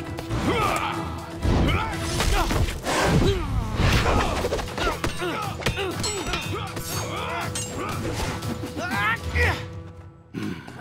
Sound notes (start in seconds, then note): 0.2 grunting